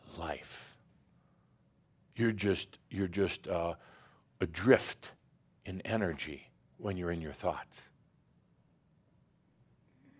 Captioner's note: slight pause